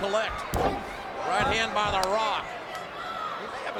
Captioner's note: hand whacks